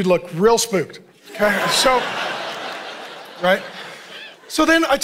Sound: congregation laughing

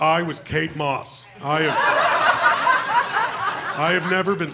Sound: laughter

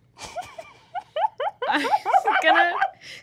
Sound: giggles

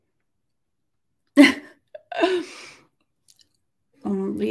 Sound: laughs

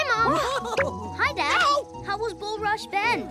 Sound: giggle

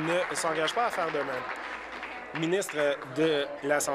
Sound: applause

